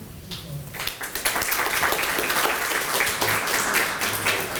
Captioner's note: applause